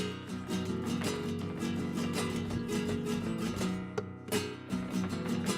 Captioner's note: heels rhythmically clicking